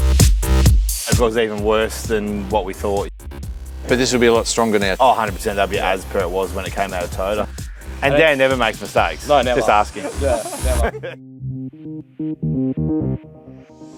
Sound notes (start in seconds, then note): 9.0 laughs; 11.2 upbeat music